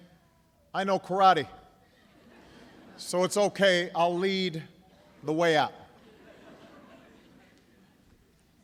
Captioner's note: laughter